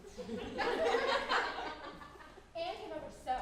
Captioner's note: audience laughing